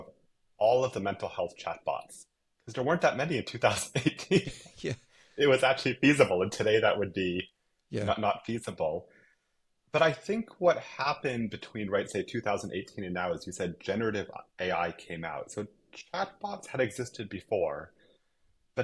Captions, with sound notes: of all of the mental health chatbots because there weren't that many in 2018. (laughs) It was actually feasible. And today, that would be not feasible. But I think what happened between say, 2018 and now is you said generative AI came out. So chatbots had existed before,